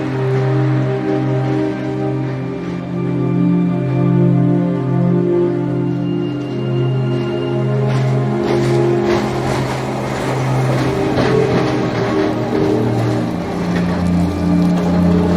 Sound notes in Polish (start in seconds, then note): 8.4 the sound of a moving streetcar